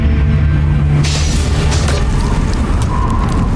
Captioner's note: music fades; ice cracks, weapon clangs; wind gushing; mystical music playing